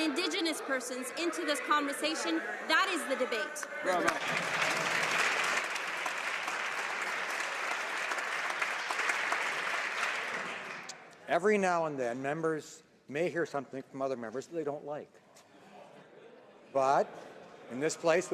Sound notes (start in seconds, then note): 7.5 some Applause